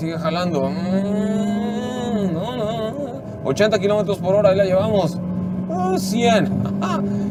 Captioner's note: imitates engine